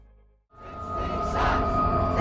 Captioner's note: crowd chanting